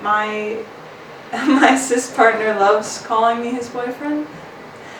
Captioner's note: chuckles